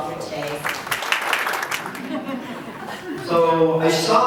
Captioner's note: applause